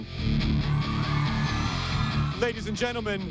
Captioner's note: crowd cheering